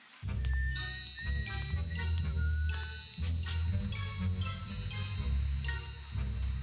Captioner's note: light hearted music; whistling